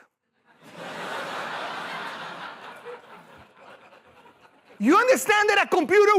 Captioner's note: laughter